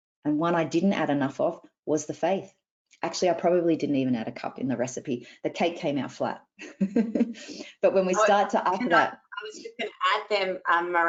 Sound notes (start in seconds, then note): 7.7 laughs